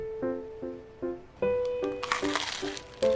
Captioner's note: the sound of eating crispy bread